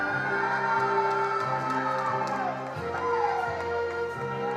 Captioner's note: attendees applauding